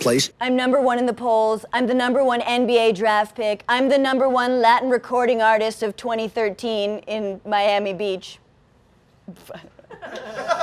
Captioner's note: laughs